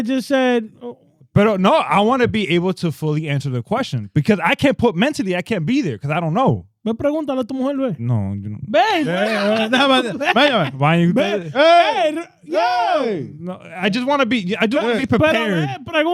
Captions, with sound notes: just said-- But no, I wanna be able to fully answer the question because I can't put mentally, I can't be there because I don't know. (Speaking In Foreign Language) No, you know. (Laughing) I just wanna be prepared.